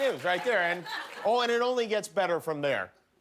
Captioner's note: laughter